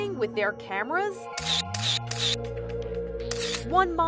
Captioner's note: cameras snapping